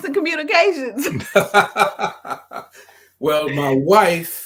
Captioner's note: laughs